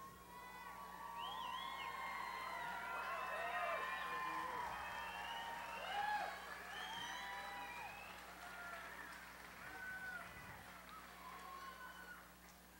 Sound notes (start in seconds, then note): 0.0 cheering